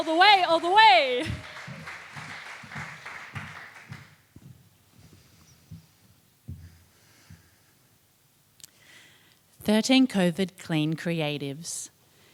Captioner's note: applause